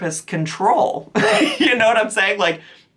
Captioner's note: chuckles